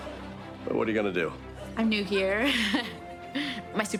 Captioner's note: chuckles